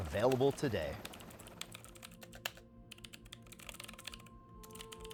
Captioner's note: keyboard clacking